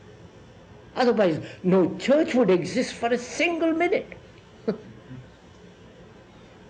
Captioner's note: laughs